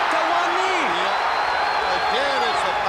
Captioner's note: crowd cheering